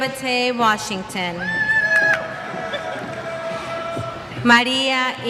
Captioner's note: cheers